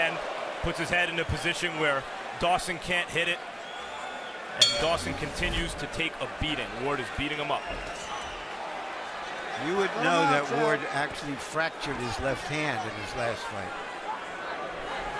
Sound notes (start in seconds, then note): 4.6 bell dings